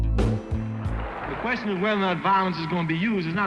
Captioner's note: voiceover